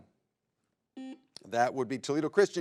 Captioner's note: buzzer beeps